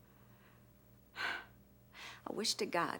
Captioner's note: sighs